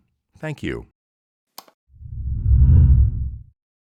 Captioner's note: whooshing